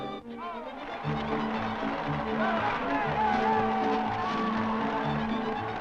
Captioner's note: cheering